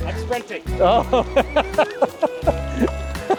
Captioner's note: laughs